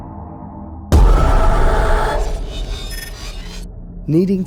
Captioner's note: screams